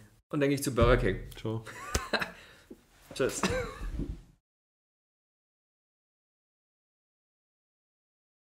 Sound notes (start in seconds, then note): 1.9 laughs